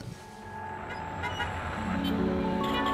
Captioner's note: traffic noises; background music